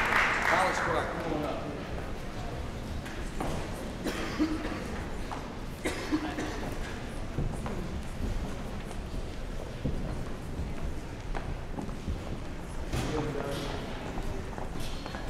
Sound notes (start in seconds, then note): 0.0 applause; 3.5 general chatter